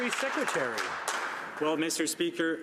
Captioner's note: some Applause